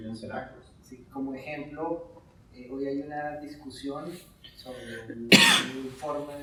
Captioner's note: speaking in Spanish